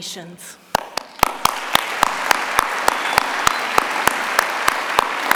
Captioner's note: applause